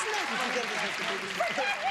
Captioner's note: clapping